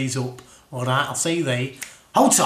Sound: snaps

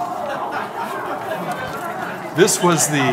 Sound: audience murmuring

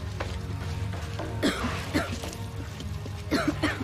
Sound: coughing

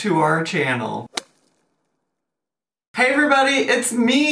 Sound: slap sound effect

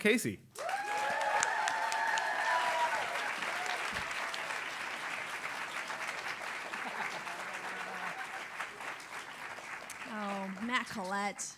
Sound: applause

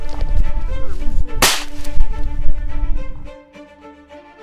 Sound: gun shoots

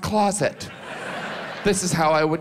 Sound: audience laughs

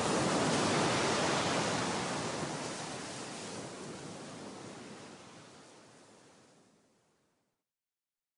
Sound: sounds of ocean waves

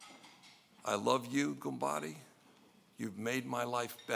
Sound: speaking in foreign language

